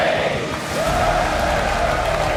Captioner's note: developers cheer